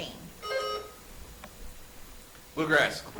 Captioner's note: buzzer chimes